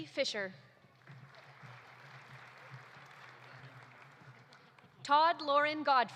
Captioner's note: audience applauding